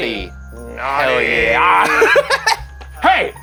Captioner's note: laughing